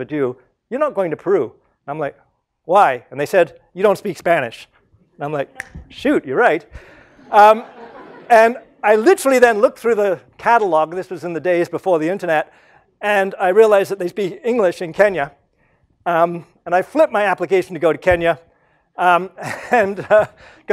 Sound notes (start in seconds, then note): 6.9 laugh; 19.8 laugh